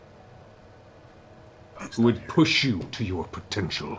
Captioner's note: whispers